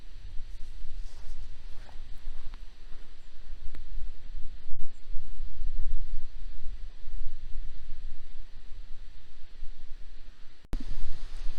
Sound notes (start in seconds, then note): 0.9 footsteps